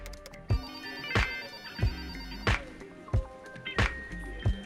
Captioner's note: phone rings